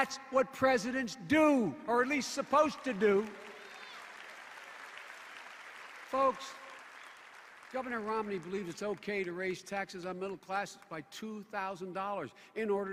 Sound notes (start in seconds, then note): 4.6 applause